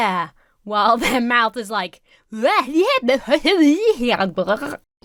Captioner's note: Emma speaking gibberish